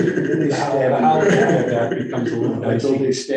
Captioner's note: all laughing; all chattering